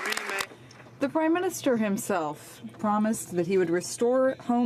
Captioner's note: some Applause